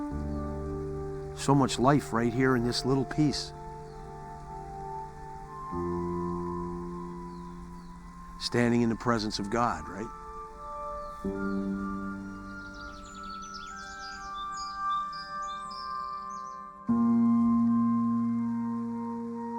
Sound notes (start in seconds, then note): 12.9 birds chirping; 16.7 dramatic music